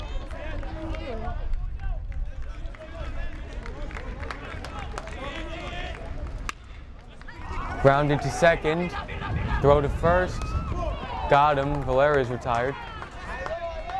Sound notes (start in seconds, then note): 5.4 fans yelling and clapping; 7.3 bat cracks